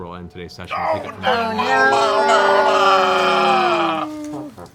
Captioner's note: groaning